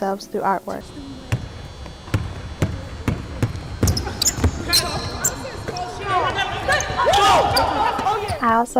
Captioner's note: basketballs bouncing